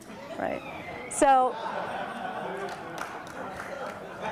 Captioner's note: crowd laughs